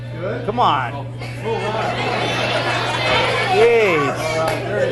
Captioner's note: students chattering; hands clap